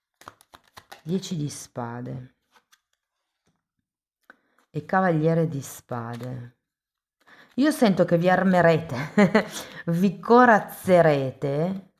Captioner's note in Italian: risate